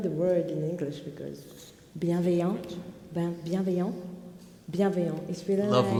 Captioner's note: speaking French